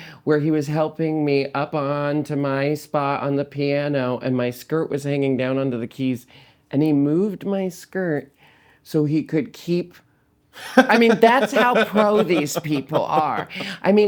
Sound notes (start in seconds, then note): 10.6 laughing